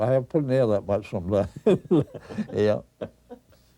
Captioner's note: chuckles